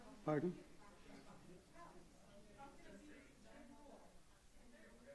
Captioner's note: audience murmuring